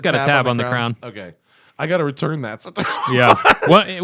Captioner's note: laughter